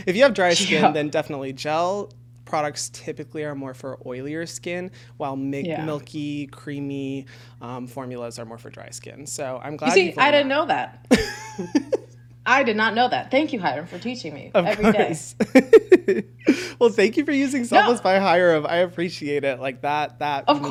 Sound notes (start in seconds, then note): 15.4 laughs